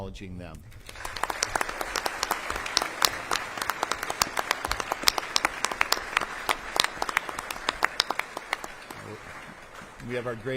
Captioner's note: applause